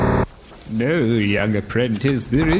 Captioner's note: closing book